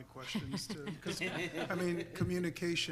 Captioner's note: board members laughing